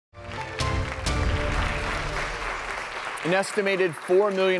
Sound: upbeat music; applause

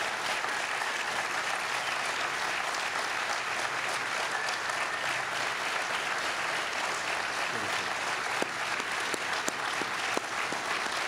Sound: applause

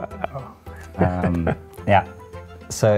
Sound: laughs

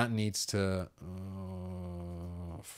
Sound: sighs

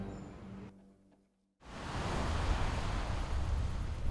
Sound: waves whooshing

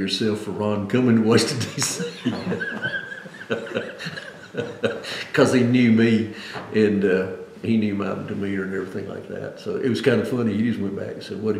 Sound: laughs

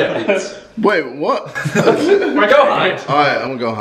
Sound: laughing

